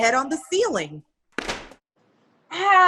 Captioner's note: thump